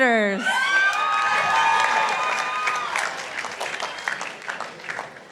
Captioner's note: participants applauding